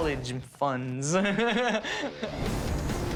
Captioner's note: laughs